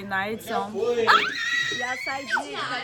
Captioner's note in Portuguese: Grito da Natalie